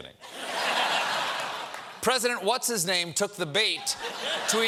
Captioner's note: laughter